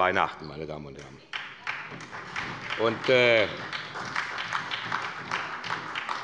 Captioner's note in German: Beifall bei Abgeordneten der SPD